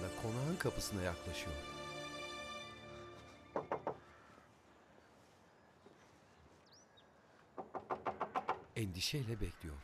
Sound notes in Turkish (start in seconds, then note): 3.5 Kapı vurma sesi; 3.6 Karga sesi